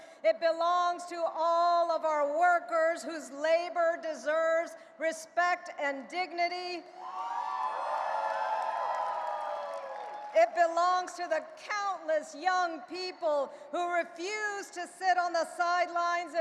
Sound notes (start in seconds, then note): 7.0 audience cheering and applauding